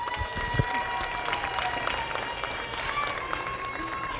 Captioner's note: applause